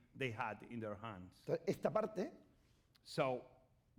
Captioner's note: speaking spanish